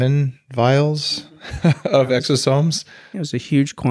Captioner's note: laughs